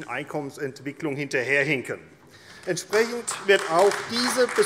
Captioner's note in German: Beifall AfD